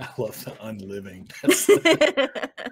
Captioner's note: Hope laughs